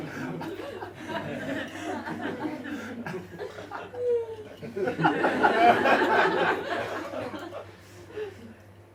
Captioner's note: audience laughs, someone says 'Oh no'; laughing continues